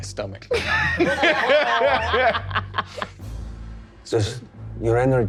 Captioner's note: all laughing